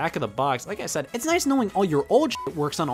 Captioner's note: beep